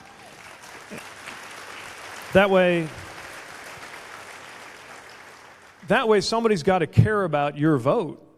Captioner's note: applause